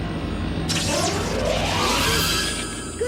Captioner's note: zap